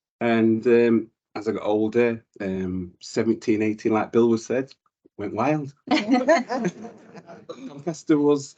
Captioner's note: panel laughs